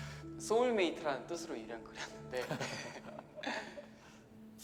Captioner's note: chuckles